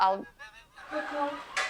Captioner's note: chuckling